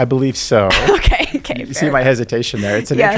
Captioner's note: laughing